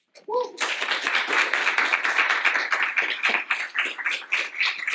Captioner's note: applause